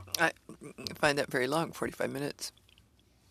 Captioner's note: speaking French